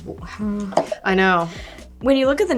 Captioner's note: bottle thumping